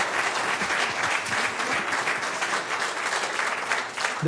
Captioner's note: cheers and applause